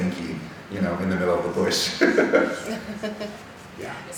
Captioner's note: laughing